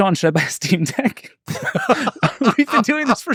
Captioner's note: group laughing